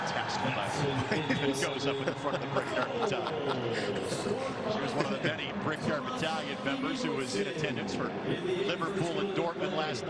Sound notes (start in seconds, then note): 4.7 laughter